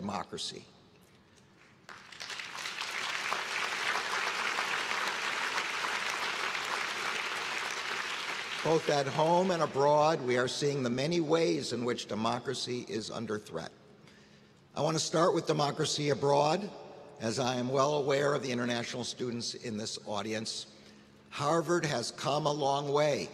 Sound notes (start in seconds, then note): 7.9 applause